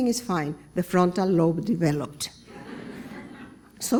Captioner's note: laughter